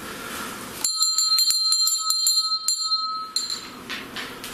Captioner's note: bell rings